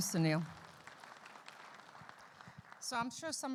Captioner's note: audience clapping